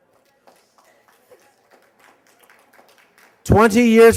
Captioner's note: applause